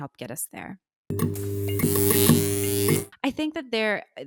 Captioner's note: electricity buzzing